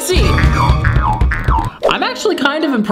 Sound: bouncing sounds

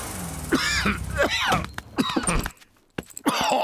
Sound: coughs

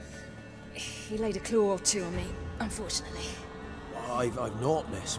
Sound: wince

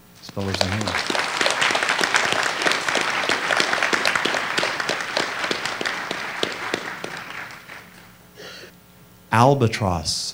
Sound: applause

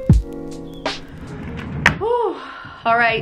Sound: sighs loudly

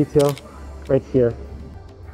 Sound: camera clicking

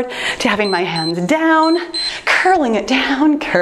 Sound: timer beeps

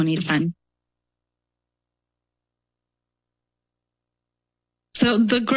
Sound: pause

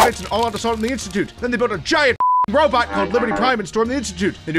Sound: beep

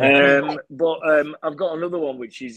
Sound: hosts laughing

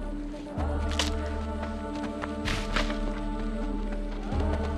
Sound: twig snaps; dramatic music

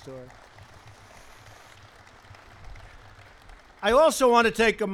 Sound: applause

